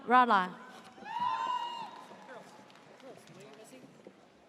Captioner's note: audience cheers